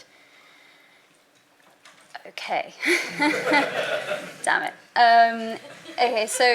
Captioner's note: background laughter